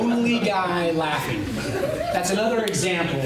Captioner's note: laughter